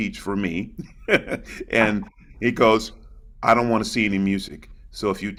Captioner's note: laughs